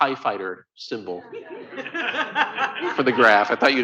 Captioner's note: laughter